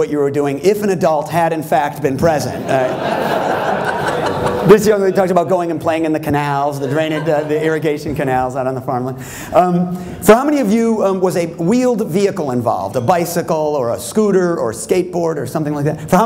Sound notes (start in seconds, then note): 2.5 laughter